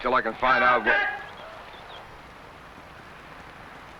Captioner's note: man shouts